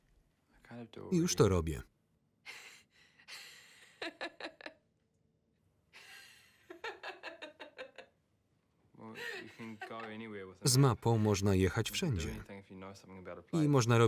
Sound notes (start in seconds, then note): 3.3 Mary laughs loudly